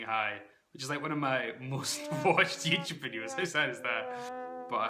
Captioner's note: sad trombone sound effect